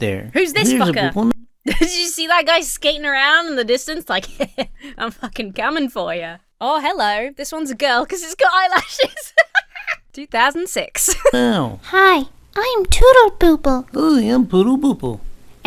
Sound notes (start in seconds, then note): 4.2 Emma laughs smugly; 8.2 Emma laughs